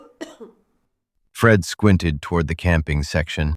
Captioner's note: SFX: coughing